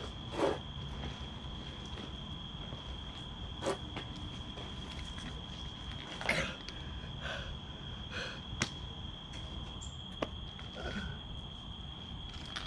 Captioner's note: panting, struggling